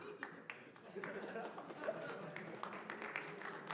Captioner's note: applause